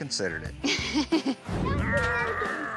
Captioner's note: chuckles